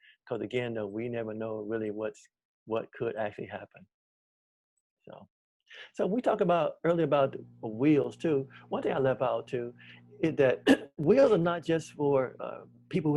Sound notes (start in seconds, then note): 10.6 clears throat